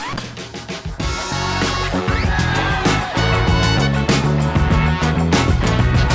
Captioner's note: jazzy music; applause